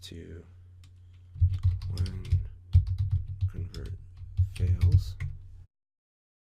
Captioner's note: typing